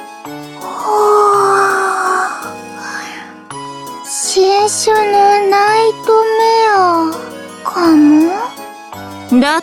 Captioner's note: yawn